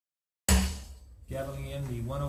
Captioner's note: gavel hits